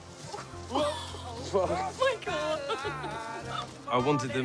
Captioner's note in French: en riant